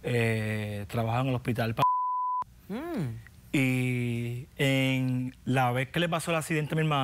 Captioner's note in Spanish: Bip